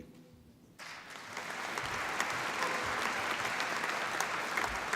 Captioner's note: applause